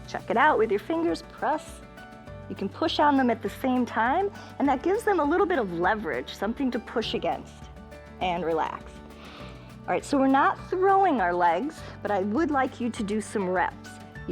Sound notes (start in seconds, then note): 9.1 inhales